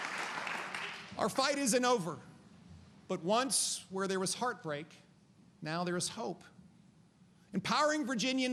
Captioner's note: applause